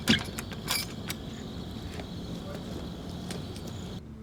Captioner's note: door creaking